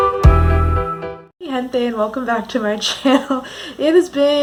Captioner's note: title Card Music; laughting